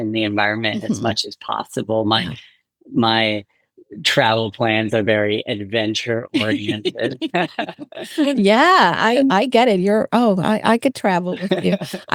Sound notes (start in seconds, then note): 8.9 both Laughing